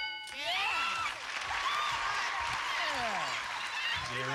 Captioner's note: cheers and applause